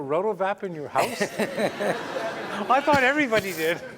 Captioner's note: laughter